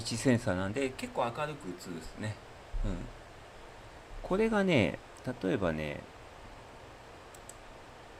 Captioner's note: none